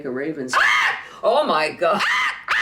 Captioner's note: crowing like a raven